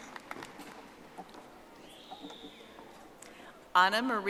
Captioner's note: audience applauding